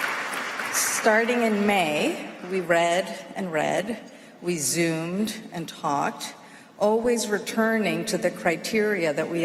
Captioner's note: applause